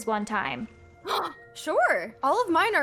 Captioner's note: gasps